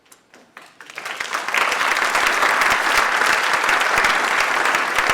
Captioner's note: audience applauds